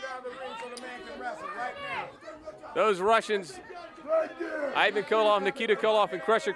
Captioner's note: crowd chatter